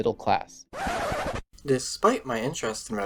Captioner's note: record scratch